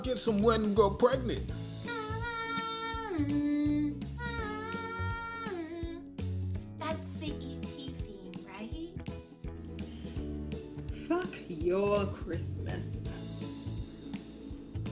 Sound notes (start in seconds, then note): 1.6 humming jurassic park theme